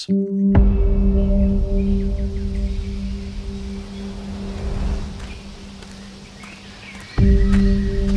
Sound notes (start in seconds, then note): 5.3 birds chirping